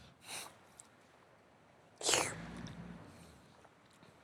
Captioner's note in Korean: 콧방귀